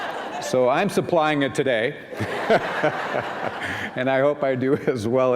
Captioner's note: laughter